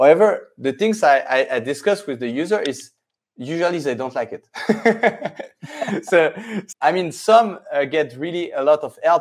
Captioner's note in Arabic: يضحك